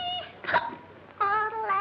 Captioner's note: yodeling; hiccup; yodeling